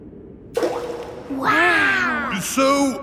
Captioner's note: rock plops